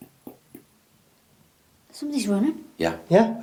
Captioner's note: footsteps banging